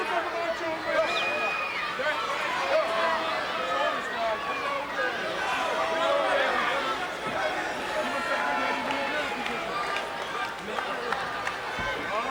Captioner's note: applause